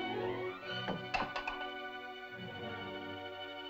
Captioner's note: soft tense music; bowl clatters; tense music